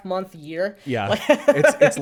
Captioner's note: laughs